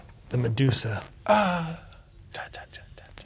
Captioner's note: imitates Medusa yelling